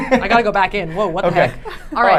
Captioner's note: laughing